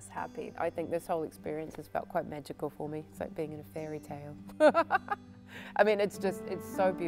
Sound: laughter

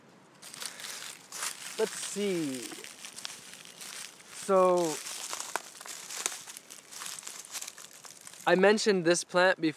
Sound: rustling sounds

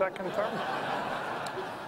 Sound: laughter

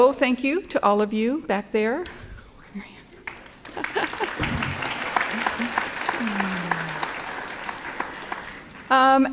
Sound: applause

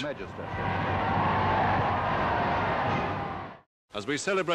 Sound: crowd cheering

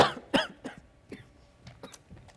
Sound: professor coughing

